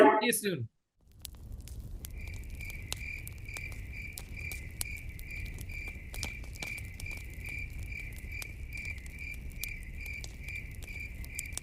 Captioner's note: campfire crackling and crickets chirping